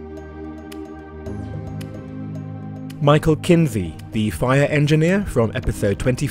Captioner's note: voiceover